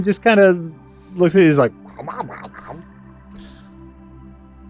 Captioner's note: noncommittal mouth noises